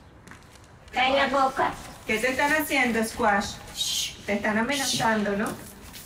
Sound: speaking in foreign language

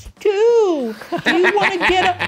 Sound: laughter

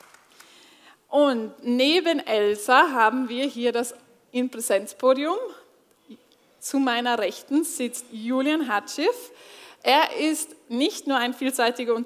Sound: applause

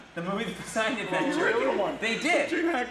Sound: audience laughs

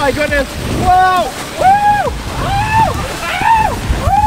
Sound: screaming

